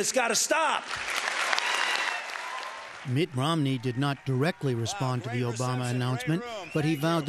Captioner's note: cheering and applause